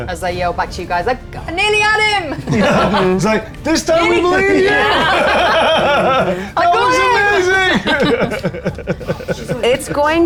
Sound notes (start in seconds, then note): 5.0 players laughing